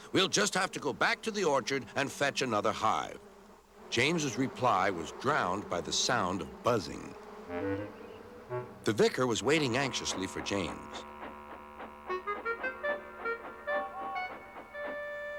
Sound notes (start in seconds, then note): 11.5 chugging; 13.3 hooting